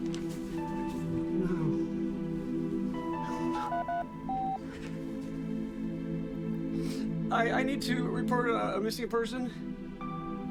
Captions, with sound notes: No. (phone beeping) I need to report a missing person.